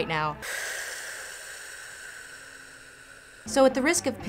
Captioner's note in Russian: тяжкий вздох